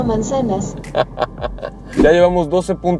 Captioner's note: laughter